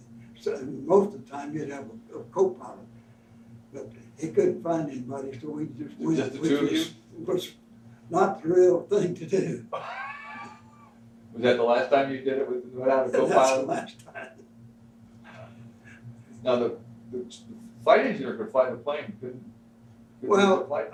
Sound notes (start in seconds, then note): 9.7 both laugh; 13.9 laughs